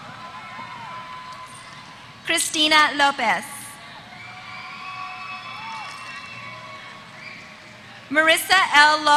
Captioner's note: applause; applause